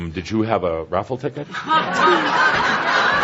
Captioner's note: lots of laughter